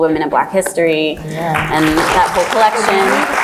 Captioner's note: applauds